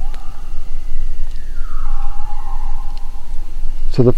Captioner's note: animals howling